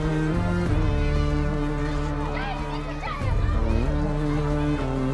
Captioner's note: people shouting and chattering